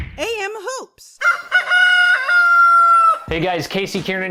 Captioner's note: rooster crowing